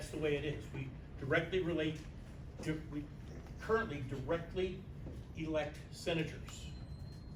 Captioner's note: stammers